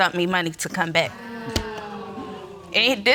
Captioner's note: audience exclaiming